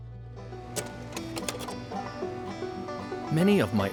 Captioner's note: slide clicking